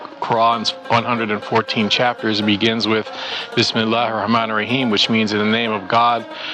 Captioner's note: speaks Arabic